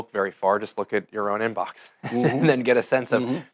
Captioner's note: laughing